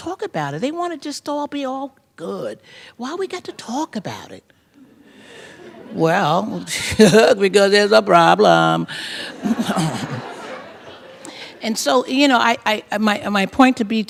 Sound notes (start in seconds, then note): 4.6 laughter; 5.9 scoffs; 9.2 laughter